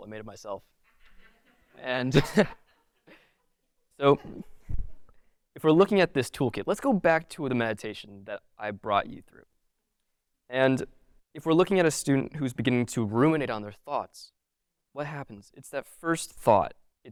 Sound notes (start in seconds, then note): 0.9 audience laughing